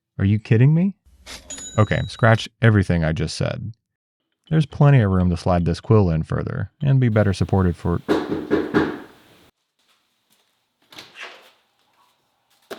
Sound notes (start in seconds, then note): 7.2 door knocking